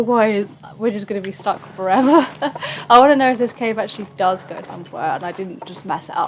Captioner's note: laughs